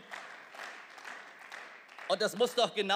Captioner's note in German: Beifall